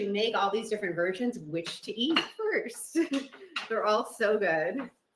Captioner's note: chuckles